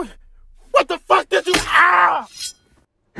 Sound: screams

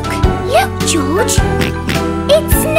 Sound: snorting

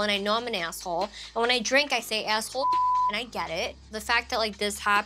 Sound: beep

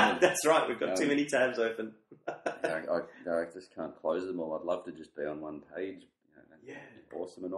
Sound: laughs

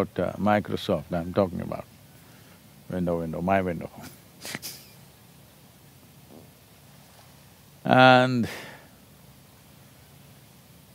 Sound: laughs

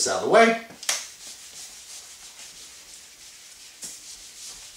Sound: erasing board

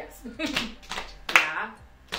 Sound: clapping; giggling

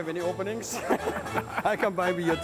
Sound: laughter

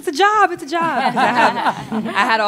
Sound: laughter

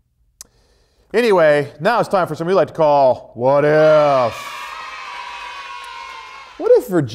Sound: cheers

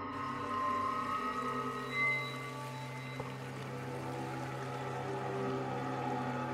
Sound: eerie music continues; water splashing

